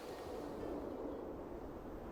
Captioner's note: wind